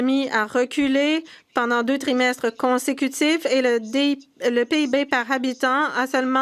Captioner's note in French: voix de l'interprète